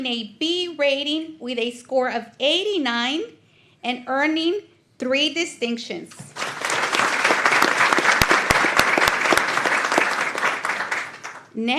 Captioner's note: applause